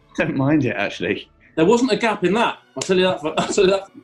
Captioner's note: splutters